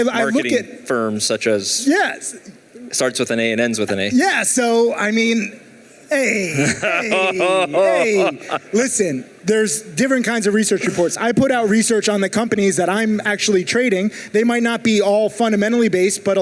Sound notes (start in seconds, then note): 6.4 laughing